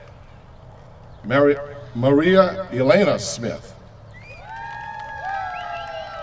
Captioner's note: cheers from crowd